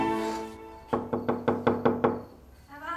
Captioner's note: knocking on door